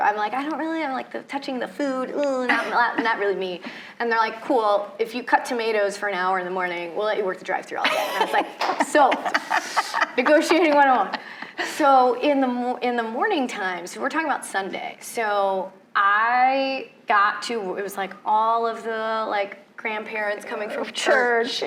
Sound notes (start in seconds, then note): 8.7 clapping; 11.2 laughing